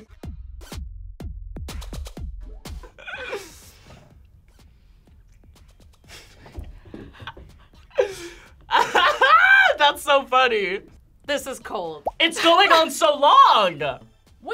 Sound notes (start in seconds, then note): 1.5 upbeat music; 8.6 laughs